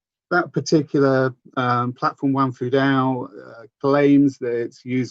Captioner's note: speaks in foreign language